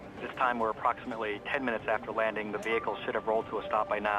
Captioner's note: murmurs